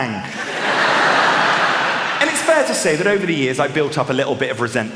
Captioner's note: laughter